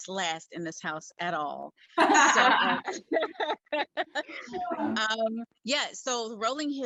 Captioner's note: all laugh